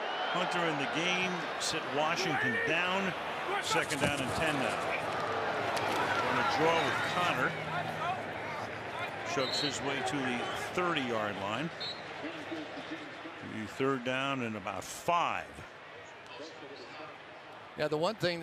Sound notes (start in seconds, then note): 11.8 whistle blows; 16.5 pa announcement